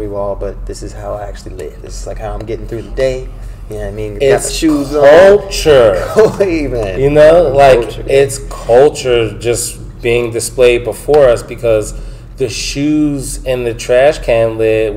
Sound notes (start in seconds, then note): 5.9 laughs